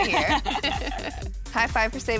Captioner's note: laughter